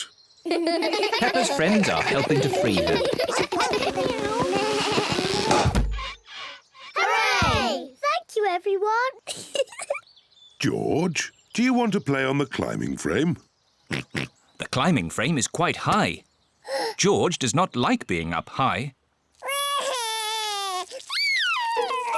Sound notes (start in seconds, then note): 9.3 giggles; 13.9 oinks; 16.6 gasps; 19.4 crying